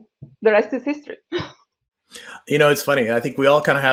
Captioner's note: chuckles